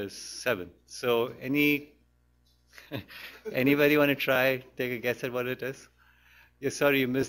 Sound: laughs

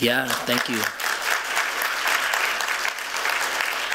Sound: applause

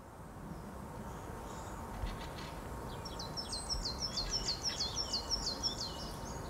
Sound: continuous birdsong and traffic noise

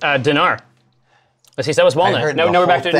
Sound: stammers

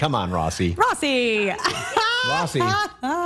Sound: laughter

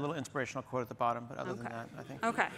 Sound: laughter

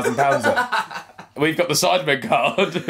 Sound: laughing

